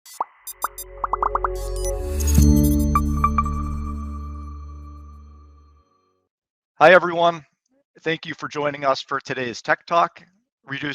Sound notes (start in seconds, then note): 0.6 gentle chiming and popping